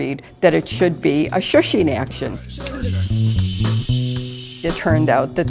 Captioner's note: shushing sound